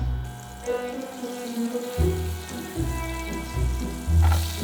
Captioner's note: vegan butter sizzling